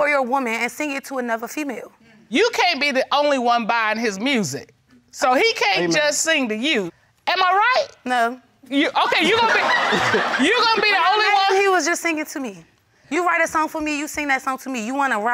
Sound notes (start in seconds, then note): 9.0 laughing